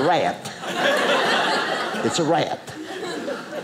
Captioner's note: audience laughing